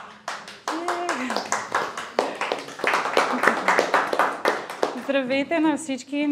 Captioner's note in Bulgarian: аплодисменти